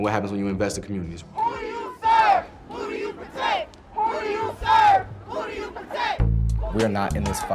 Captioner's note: crowd chants